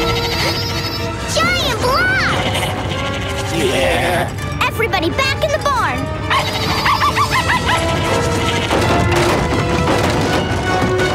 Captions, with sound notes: Giant blocks! Everybody back in the barn! [barking]